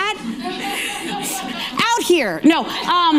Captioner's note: audience laughing